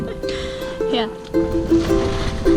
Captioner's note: laughs; guitar music